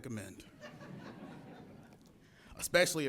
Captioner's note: audience laughs